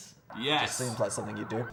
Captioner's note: sirens waling